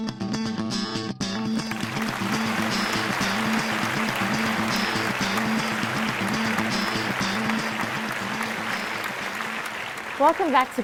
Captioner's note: applause